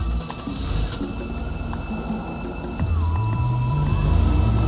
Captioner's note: engine revs